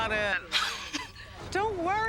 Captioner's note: Kristen chuckles